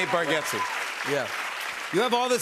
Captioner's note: cheers and applause